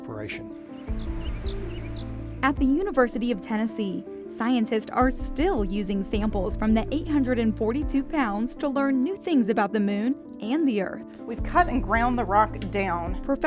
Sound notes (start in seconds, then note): 0.1 birds chirping